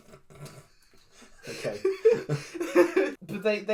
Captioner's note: openly laugh